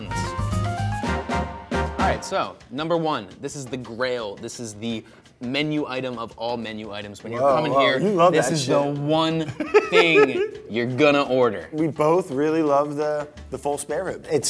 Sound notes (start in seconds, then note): 0.3 upbeat music; 9.5 Brad laughs